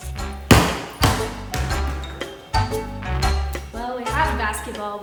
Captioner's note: ball bouncing